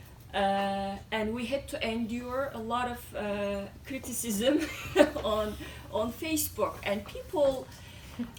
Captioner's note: laughs